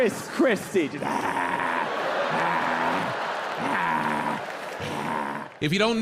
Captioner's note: John imitates Petunia breathing